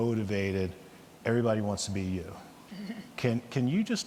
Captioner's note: chuckles